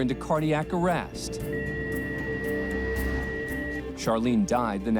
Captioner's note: heart monitor flatline